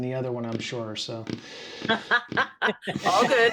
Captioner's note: laughing